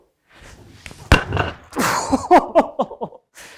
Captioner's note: shoes swooshing; laughing